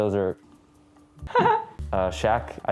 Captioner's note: laughs